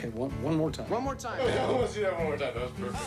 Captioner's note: laughs